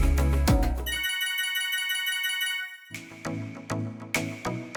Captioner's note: slot machine winning sound; upbeat music